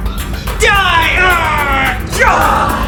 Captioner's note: fighting noises